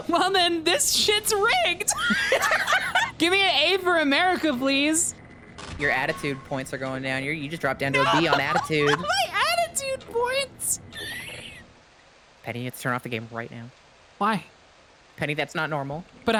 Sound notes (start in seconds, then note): 1.9 both laugh; 7.9 laughs; 10.9 wheezes